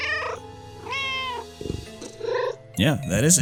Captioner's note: meow